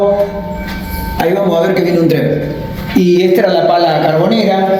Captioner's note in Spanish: suena alarma de las barreras